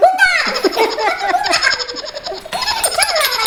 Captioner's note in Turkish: gülme sesi